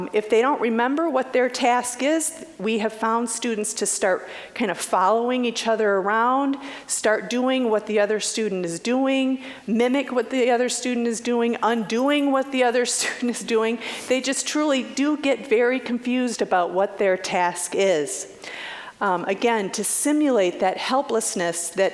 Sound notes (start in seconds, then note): 13.6 chuckling